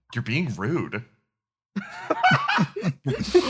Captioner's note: laughs